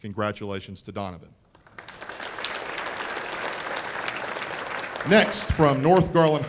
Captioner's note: applause